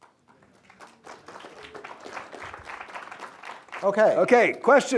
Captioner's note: applause